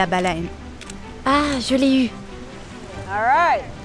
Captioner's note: camera clicking